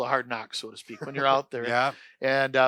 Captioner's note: laughter